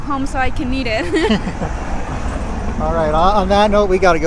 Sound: both laughing

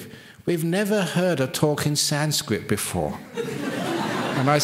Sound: laughter

